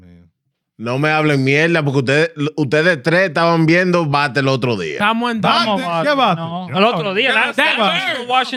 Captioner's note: speaking In Foreign Language